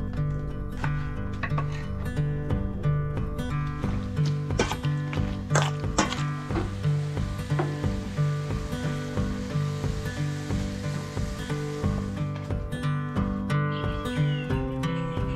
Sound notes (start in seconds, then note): 5.6 meat sizzling